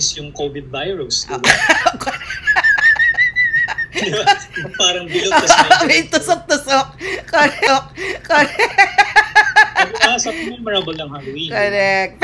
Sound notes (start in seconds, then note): 1.4 laughter